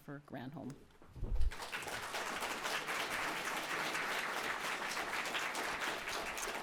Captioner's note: applause